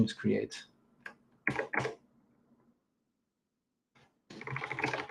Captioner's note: keyboard clacking